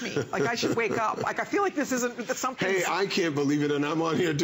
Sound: laughter

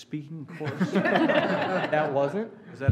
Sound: laughter

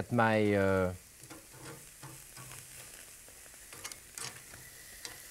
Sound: pork steaks sizzling

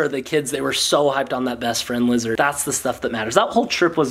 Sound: none

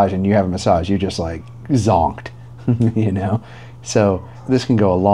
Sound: chuckles

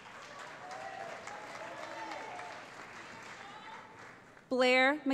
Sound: cheering

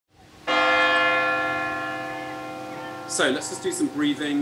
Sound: bells ring

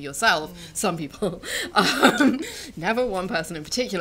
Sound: they laugh

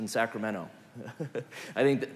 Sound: laugh

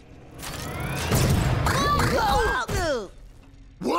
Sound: groaning

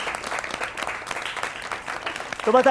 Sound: applause

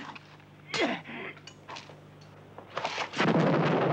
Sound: man grunting; explosion blasting

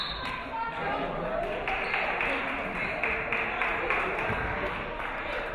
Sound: referee whistles; audience clapping

